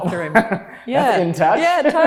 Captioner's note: laughing